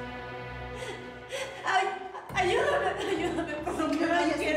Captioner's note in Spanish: sollozos